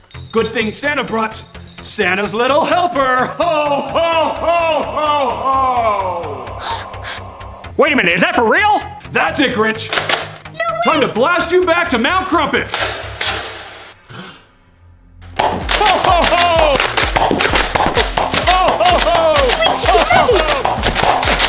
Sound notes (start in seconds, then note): 16.3 Nerf blaster blasts